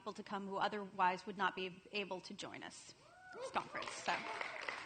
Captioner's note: applause and cheers